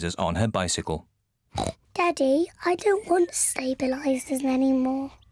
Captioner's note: snorts